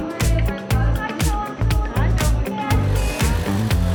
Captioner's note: in Armenian